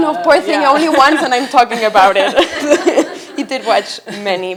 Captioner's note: chuckles